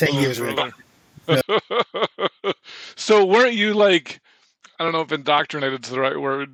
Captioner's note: chuckling